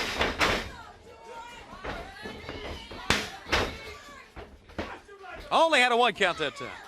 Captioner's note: crowd chatter